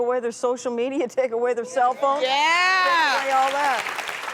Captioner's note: crowd applauds